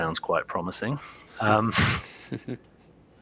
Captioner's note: laughter